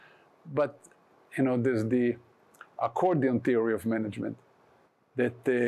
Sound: none

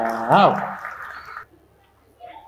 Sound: applause

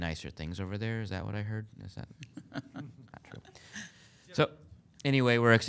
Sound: board laughing

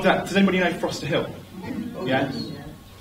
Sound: audience answers

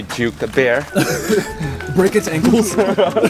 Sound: laughs

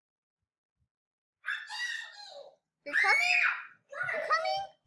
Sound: scream

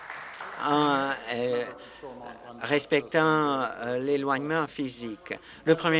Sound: applause

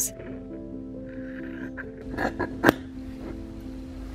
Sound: snip snip

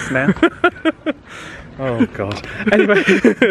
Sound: laughs

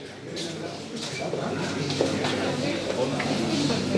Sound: office noises

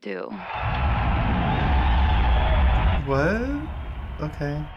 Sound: audience cheering

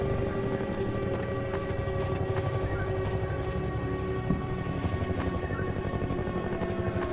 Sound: helicopter blades whirring continues

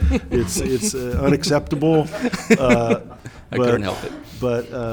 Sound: audience laughing

